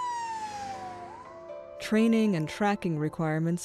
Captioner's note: siren wails